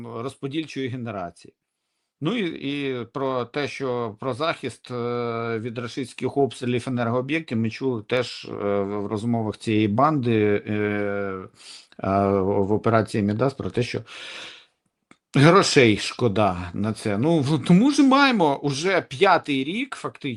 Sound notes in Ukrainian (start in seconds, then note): 11.4 сопіння